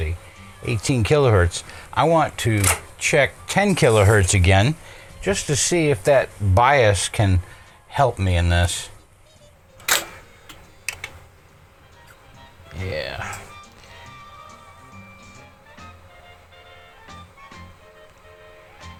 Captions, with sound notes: 18 kilohertz. I want to check 10 kilohertz again, just to see if that bias can help me in this. (clicking) Yeah. (upbeat music)